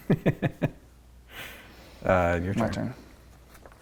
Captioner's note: laughing